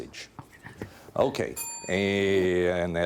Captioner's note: whispering; bell dinging